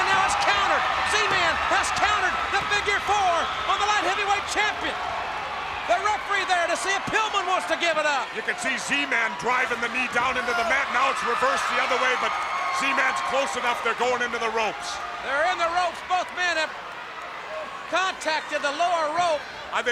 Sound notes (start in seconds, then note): 10.5 crowd cheering